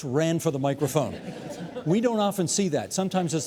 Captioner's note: audience laughing